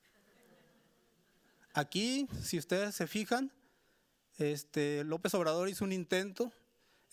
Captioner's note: speaking Spanish continues